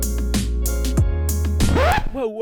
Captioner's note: record scratch